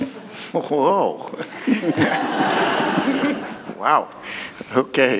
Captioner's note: laughter